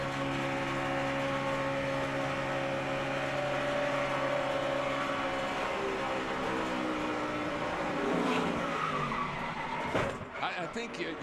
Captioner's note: engine humming